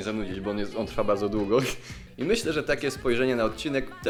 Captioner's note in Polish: śmiech